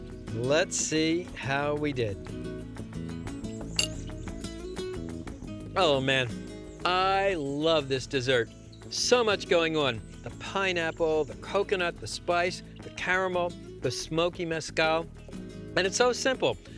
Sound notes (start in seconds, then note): 3.1 smacks lips